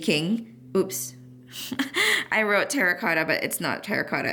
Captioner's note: chuckles